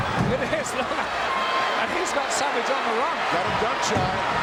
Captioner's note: laughs